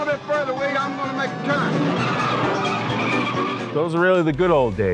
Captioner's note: screeching sound